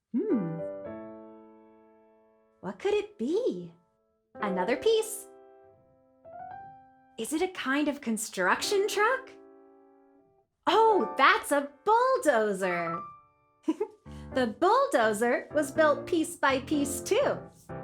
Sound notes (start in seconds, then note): 0.3 playful piano music; 13.7 giggles